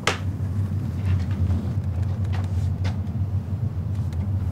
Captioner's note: dull whirring